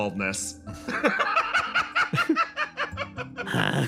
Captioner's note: laugh